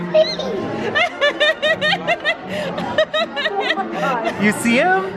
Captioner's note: laughs